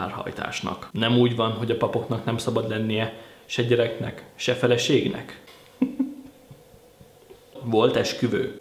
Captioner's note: laughter